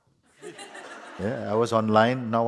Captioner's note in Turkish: kahkaha